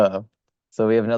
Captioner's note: laughs